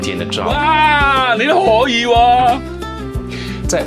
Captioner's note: Cantonese